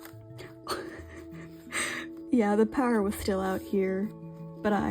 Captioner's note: laughing